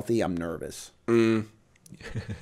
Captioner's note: chuckle